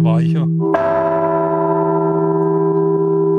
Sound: the bell rings

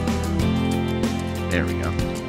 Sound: on the radio

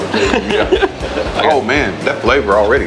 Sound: men laugh

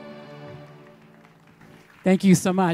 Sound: audience applauding

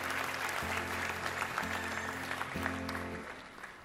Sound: applause

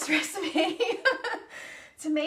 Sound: laughs

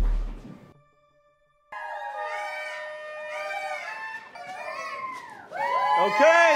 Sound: cheering, party horns honking

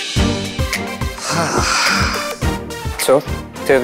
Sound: Harry sighs

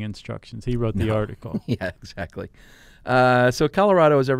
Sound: chuckles

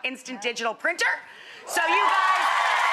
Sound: audience cheering

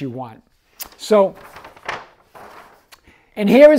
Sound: paper crinkling

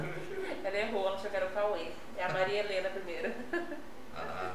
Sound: laughs

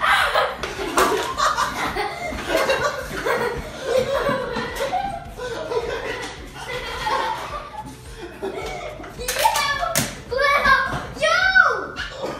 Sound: screams; laughing

